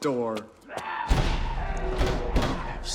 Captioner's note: snarling